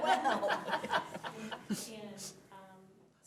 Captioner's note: laughing